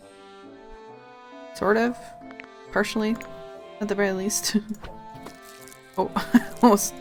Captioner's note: giggles